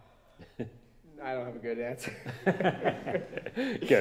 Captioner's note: laughter